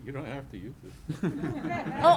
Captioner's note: laughter